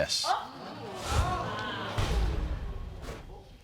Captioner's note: audience gasps